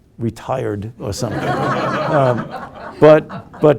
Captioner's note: group laughing